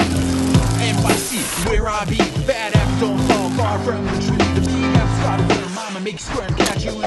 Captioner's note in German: Rap-Musik; Farbsprühdose sprüht